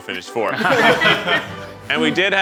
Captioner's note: laughter